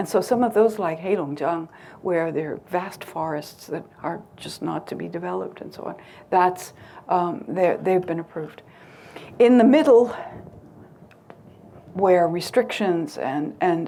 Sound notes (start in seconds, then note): none